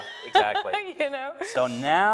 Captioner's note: laughs